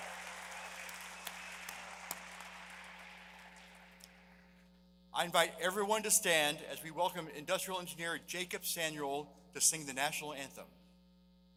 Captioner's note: applause